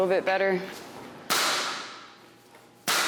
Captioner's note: nail gun fires